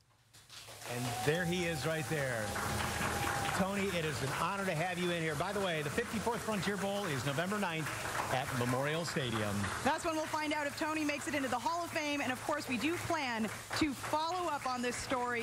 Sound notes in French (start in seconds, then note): 4.1 applause